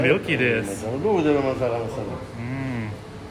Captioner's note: speaking in foreign language